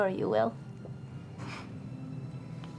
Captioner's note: none